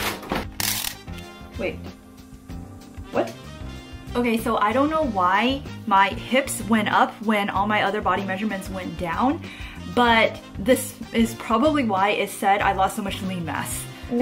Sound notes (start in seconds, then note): 0.0 tape measure scratching